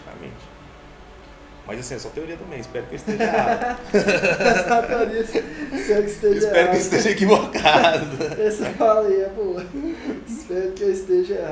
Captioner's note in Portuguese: Risos